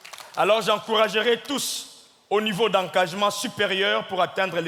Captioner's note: audience clapping; speaking in French